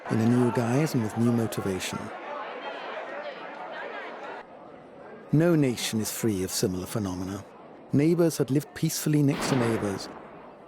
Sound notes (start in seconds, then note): 2.9 crowd chatter